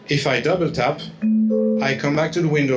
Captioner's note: computer chimes